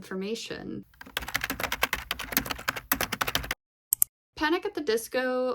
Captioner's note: typing noises